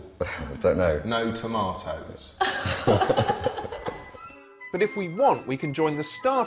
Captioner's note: slightly strained laughter